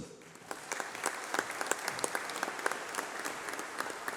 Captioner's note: applause